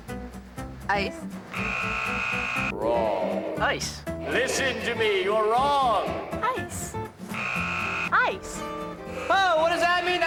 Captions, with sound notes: ICE. ( buzzer buzzing ) WRONG. ICE. LISTEN TO ME. YOU'RE WRONG. ICE. ( buzzing ) ICE. OH, WHAT DOES THAT MEAN?